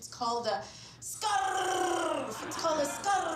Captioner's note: laughter